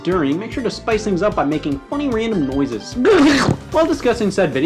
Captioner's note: gurgles